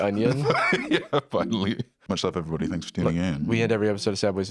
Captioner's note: laughs